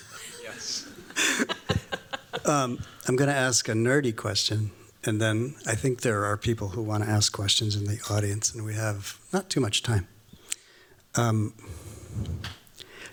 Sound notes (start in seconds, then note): 0.0 chuckles